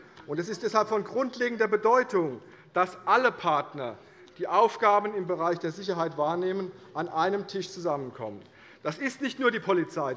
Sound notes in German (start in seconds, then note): none